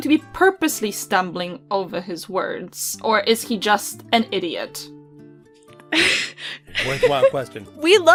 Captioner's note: laughter